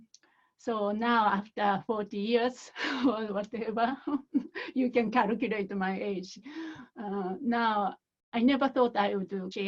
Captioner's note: laughter